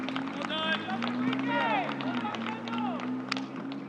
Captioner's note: spectators cheer